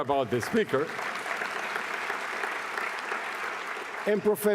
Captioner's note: applause